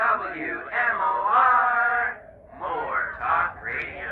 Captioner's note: radio Announcer